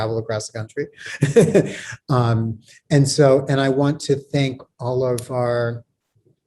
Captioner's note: laughs